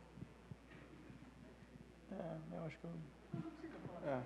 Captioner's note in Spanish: none